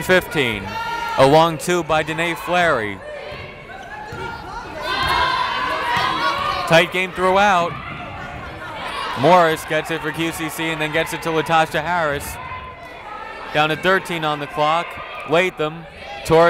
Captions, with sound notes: 18-15, along two by Denea Fleary. (yelling) Tight game throw out! Morris gets it for QCC and then gets it to Latasha Harris, down to 13 on the clock, Latham.